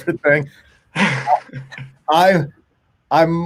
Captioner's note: laughing